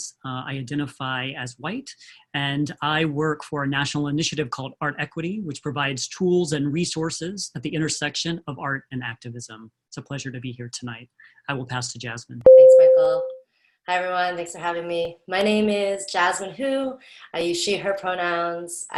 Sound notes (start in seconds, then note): 12.5 bell rings